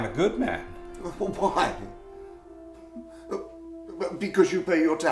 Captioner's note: laughing